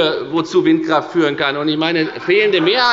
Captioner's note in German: Heiterkeit und Beifall – Zurufe